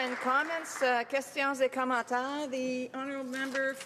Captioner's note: applause